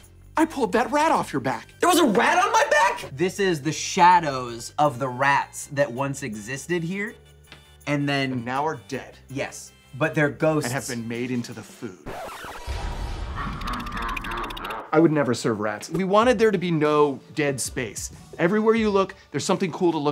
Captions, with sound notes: I pulled that rat off your bac. There was a rat on my back? This is the shadows of the rats that once existed here. - And then-- - Now are dead. Yes, but their ghosts-- And have been made into the food. [record scratch] [evil laughter] I would never serve rats. We wanted there to be no dead space. Everywhere you look, there's something cool to look at it.